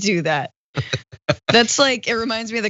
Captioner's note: laugh